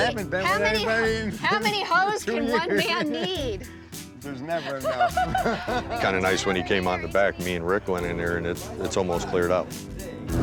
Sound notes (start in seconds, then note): 4.5 laughter